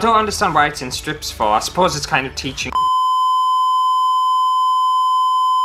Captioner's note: beep